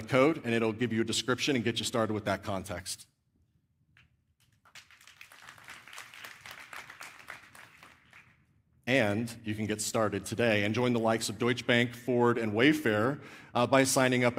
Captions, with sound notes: and it'll give you a description and get you started with that context. [APPLAUSE] And you can get started today and join the likes of Deutsche Bank, Ford, and Wayfair by signing up